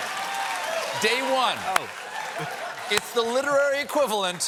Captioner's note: applause; laughter